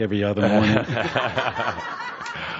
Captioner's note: laughter from audience